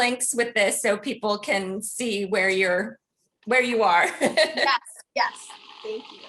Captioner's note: laughs